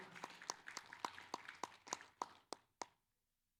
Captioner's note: applause